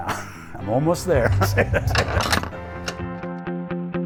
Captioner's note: laughs; rock music